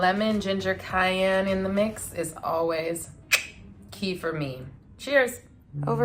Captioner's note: clicks tongue